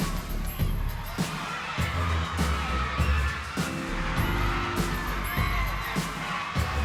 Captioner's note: crowd cheering; upbeat hiphop music